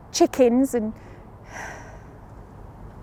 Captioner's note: sighs